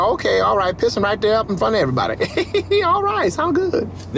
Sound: laughs

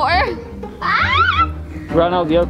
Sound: yells

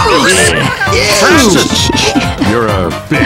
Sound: Zoey giggling

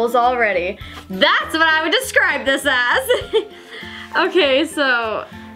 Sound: chuckles

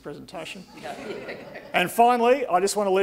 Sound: audience laughing

